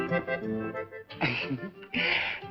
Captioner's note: chuckles